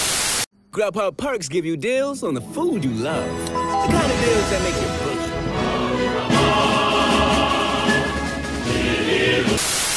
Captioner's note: in Spanish